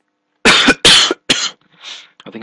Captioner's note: coughing